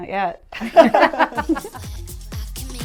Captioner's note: people laugh